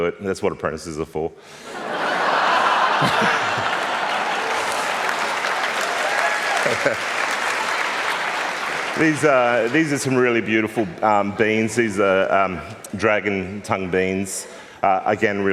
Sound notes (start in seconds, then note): 1.5 laughter and Applause